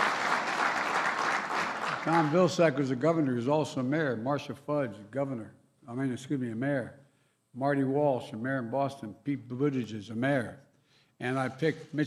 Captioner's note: cheers and applause